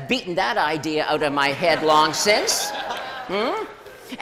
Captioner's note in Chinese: 笑聲